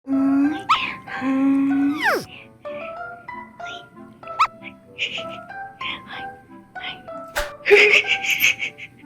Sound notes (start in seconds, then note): 5.0 giggle; 7.6 giggle